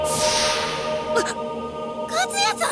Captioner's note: gasp